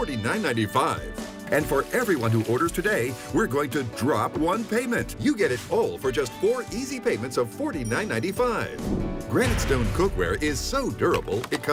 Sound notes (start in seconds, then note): 3.4 milk burbling; 7.6 droplet splashes; 8.8 upbeat jazz music